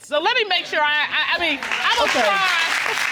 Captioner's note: stuttering